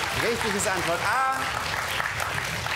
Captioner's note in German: Applaus